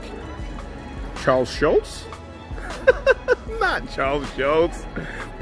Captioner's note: laughing